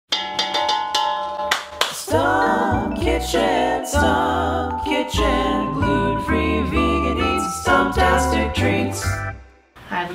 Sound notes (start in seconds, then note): 0.1 pan clangs; 1.4 claps